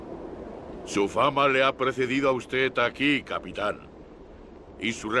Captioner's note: Victorio speaks Spanish